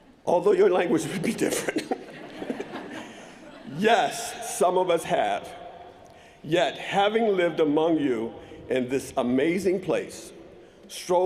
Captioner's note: laughter